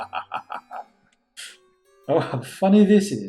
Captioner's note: Musky laughing